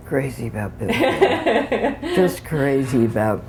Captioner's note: laughter